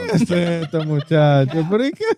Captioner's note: speaking In Foreign Language